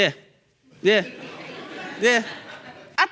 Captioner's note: audience laughing